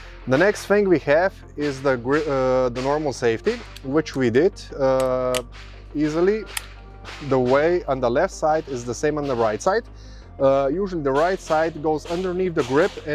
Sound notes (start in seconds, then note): 6.0 gunshots booming; 6.4 gun clanking